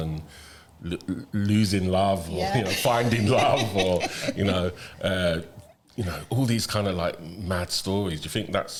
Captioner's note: laughter